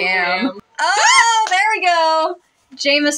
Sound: excited Scream

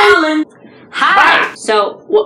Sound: screaming

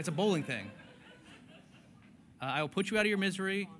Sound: laughter

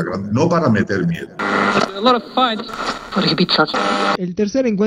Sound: radio tuning

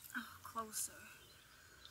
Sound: none

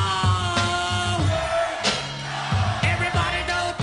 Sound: crowd mimicking

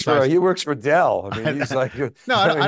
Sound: chuckles

